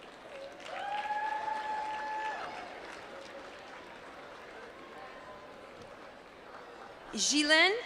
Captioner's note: applause